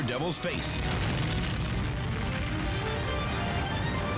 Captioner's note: explodes